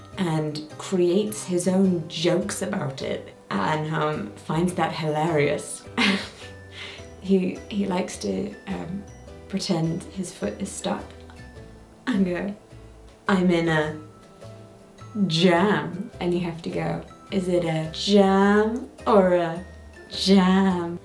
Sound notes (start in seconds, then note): 5.9 chuckling